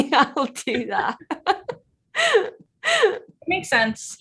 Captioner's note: Jodie chuckles loudly